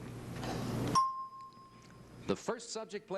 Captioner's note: bell ding